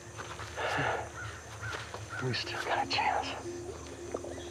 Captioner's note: chuckles